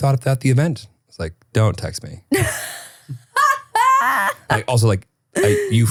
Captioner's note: laughing